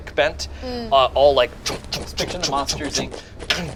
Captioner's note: synchronized footsteps